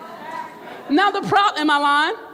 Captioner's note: crowd murmurs